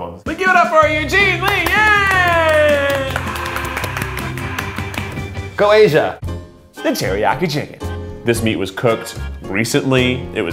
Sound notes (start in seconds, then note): 1.2 hyperbolized applause